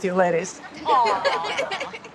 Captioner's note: laughter